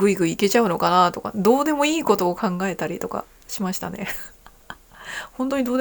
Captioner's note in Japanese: 笑い